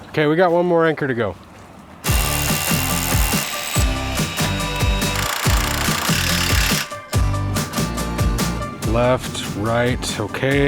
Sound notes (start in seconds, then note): 2.0 drill rattling; 2.2 upbeat rock music